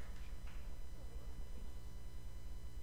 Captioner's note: applause